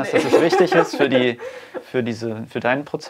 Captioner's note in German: lachend